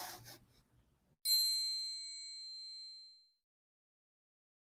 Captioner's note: bell tinkling